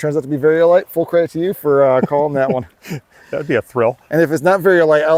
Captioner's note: laughing